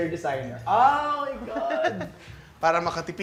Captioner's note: giggling